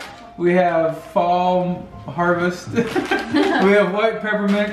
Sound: laughs

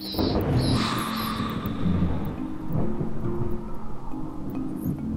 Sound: bats squeaking; playful music

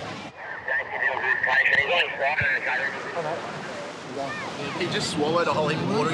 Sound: talking over walkie talkie

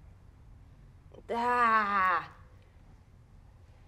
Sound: groans in annoyance

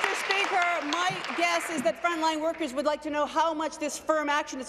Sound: applause

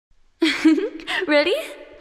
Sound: giggle

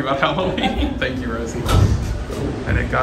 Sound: laughs

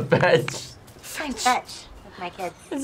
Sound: laughs

